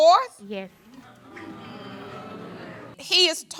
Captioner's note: audience disapproving